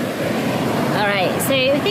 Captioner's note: sound of crashing waves